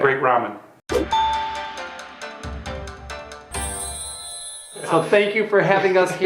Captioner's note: bell dings; asian music